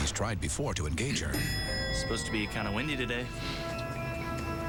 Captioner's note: elevator bell dings